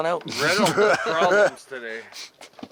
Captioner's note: laughs